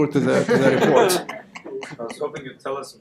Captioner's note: audience laughter